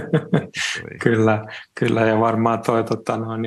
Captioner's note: naurua